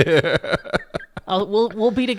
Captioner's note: laughs